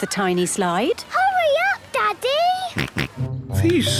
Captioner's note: George snorts